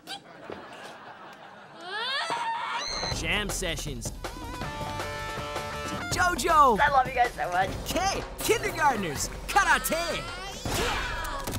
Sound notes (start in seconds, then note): 1.8 screaming